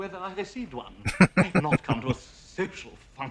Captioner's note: laughing